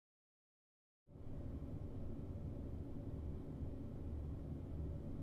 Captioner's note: machine rumbling faintly